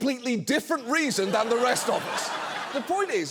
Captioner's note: audience laughs